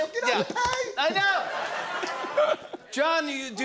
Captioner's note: laughter